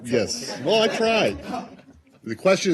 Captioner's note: laughter